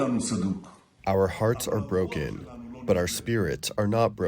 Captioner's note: through translator